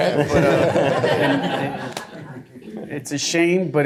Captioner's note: laughter